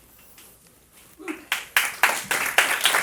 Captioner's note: applause